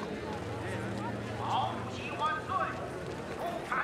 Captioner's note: announcer Over P.A., In Chinese